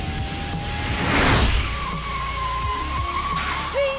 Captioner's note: tyres squeal